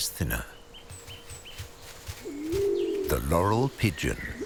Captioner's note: wings flapping